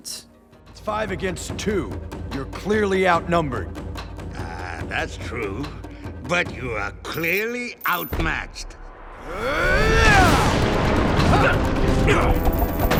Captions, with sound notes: It's five against two. You're clearly outnumbered. Ah, that's true, but you are clearly outmatched. [grunting]